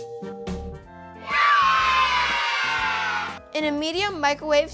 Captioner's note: cheering